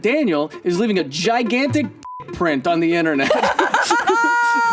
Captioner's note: beep; laughs